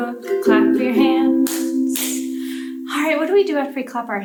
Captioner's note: hands clapping